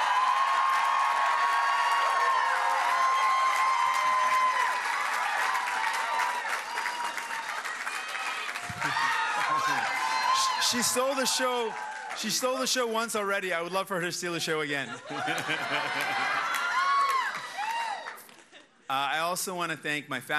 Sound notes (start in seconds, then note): 6.8 cheers and applause